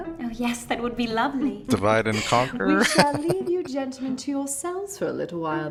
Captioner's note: laughing